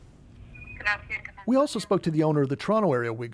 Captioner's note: phone ringing